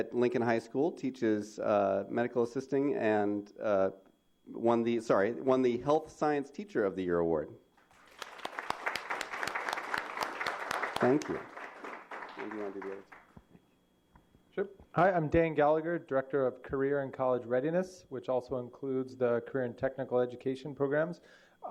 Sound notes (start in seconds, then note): 11.6 applause